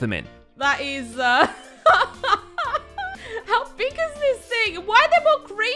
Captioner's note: laughs